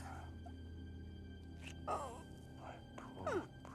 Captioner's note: sobbing